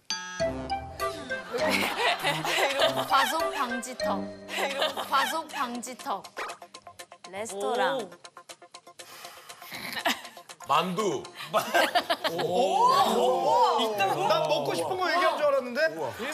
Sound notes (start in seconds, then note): 9.1 phew; 11.4 laughs